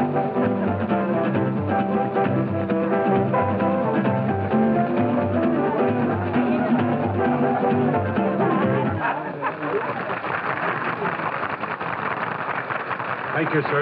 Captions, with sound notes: [music stops] [applause] Thank you, sir.